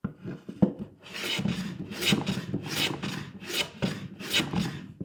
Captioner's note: tool scraping